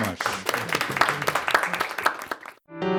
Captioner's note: applause